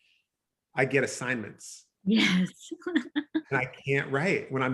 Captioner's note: chuckles